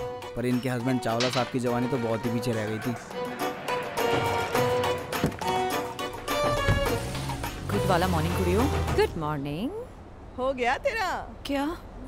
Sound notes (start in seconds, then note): 5.0 car door opens & closes